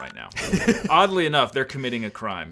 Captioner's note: laughing